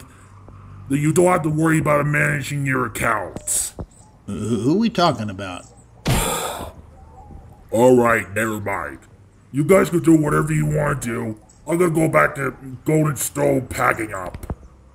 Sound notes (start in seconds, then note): 6.1 frustrated Signs